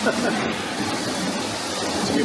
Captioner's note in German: Gelächter